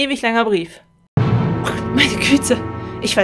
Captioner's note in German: dramatischer Sound